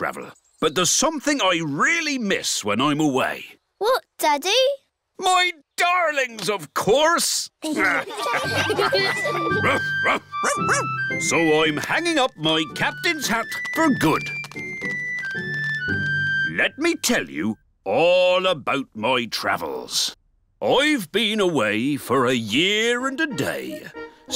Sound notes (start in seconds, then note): 7.7 all laughing; 9.4 captain and danny dog bark